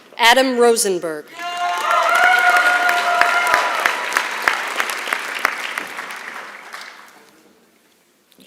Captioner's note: applause